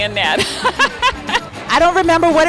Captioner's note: laughing